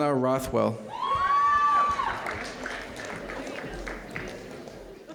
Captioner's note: audience cheering